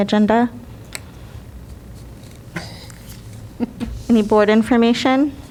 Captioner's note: laughter